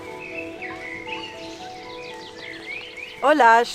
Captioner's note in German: Vogelgezwitscher & Regenprasseln